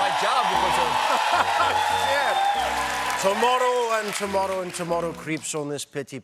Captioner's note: cheers and applause